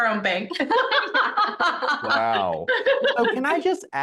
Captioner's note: both laughing